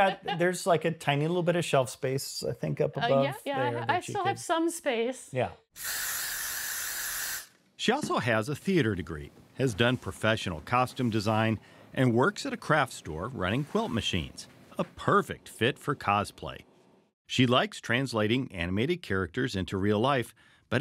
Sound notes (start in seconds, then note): 0.0 laughs; 5.7 spray hissing